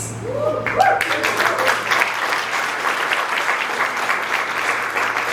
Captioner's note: audience applauds